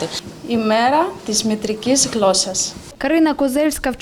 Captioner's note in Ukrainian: говорить грецькою